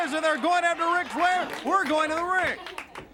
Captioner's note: crowd chatter